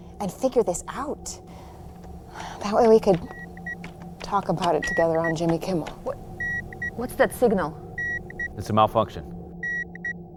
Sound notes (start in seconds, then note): 2.2 sighing; 4.7 system beeping